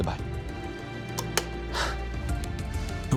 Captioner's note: relieved sigh